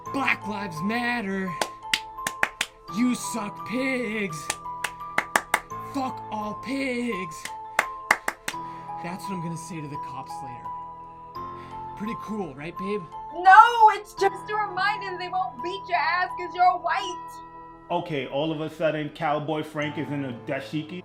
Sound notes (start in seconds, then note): 1.5 claps; 4.8 claps; 7.7 claps